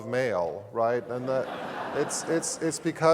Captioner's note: laugh